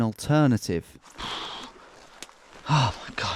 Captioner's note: breathing hard